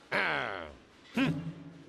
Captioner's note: growls